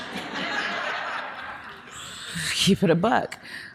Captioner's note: audience laughing